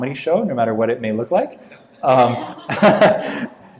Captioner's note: laughing